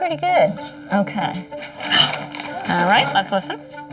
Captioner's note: gasps